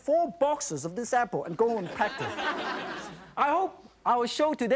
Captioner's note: audience laughs